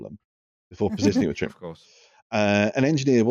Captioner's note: short laugh